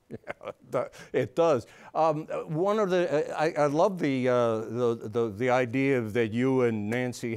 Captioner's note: laughs